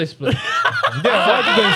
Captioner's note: laughing